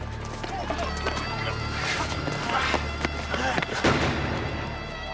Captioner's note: man gasping; gunshot